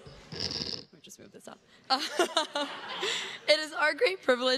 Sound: chuckles

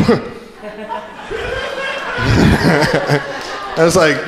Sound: crowd laughing

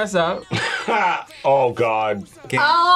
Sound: laughs

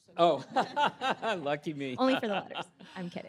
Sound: laughs

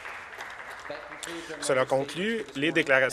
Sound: some Applause

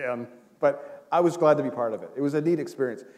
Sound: chuckle

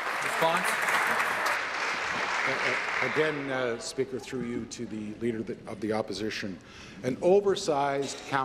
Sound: applause

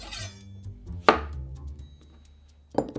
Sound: knife cutting

